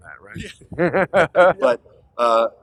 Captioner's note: laughter